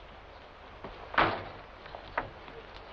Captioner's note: door slams